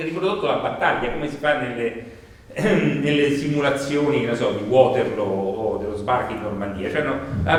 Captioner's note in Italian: colpo di tosse